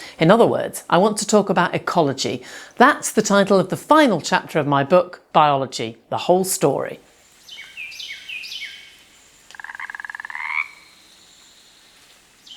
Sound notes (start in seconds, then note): 7.2 bird chirping; 9.4 frog ribbiting